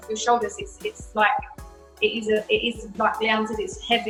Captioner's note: stammers